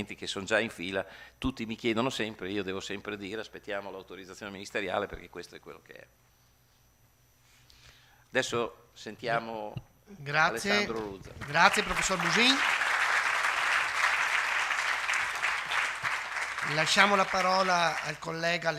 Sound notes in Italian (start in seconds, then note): 10.9 Applauso